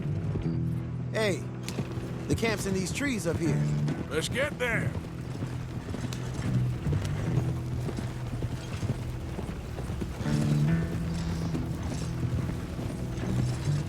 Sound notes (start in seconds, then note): none